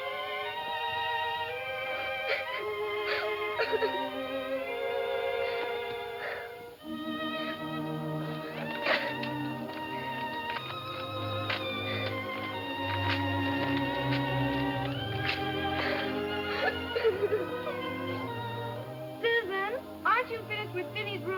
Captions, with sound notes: (sobbing) - Susan, aren't you finished with Phinney's room yet?